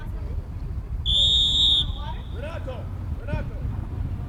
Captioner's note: whistle